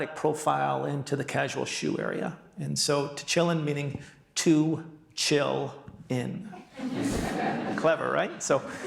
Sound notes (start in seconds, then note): 6.6 audience laughing